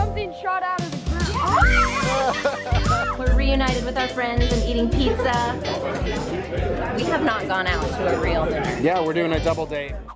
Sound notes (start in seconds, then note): 1.2 kids laughing